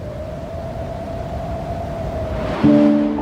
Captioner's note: wind howling